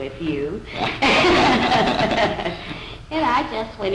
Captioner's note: laughter